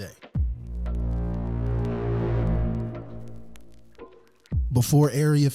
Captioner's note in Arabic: مركب الغدر sfx